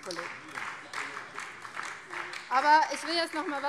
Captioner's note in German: Beifall BÜNDNIS 90/DIE GRÜNEN